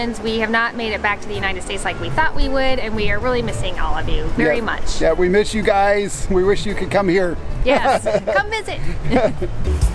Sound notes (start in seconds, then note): 7.7 laughs